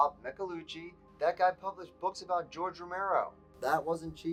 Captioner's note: on phone